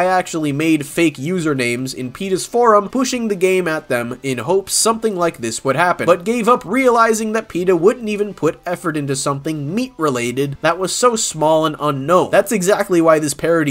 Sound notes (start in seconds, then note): none